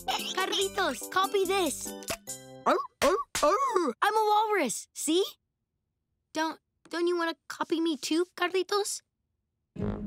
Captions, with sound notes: Carlitos, copy this. [imitates a walrus] I'm a walrus. See? Don't... Don't you wanna copy me too Carlitos?